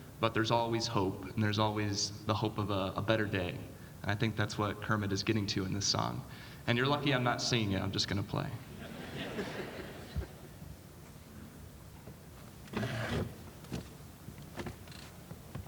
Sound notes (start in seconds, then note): 8.7 audience laughing